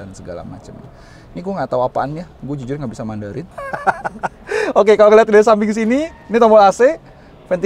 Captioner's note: laughing